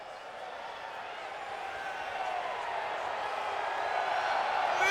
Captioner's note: crowd cheering